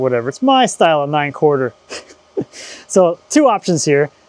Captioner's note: chuckles